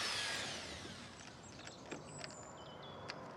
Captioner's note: power running down; clicking